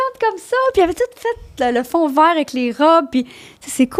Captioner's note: in french